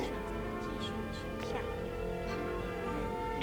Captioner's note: phone rings